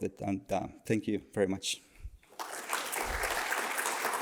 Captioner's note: applause